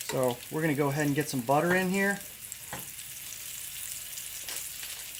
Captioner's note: sizzling